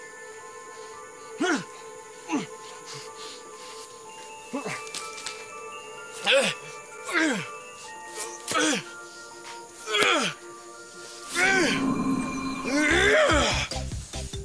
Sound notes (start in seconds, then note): 1.2 grunting; 7.0 grunting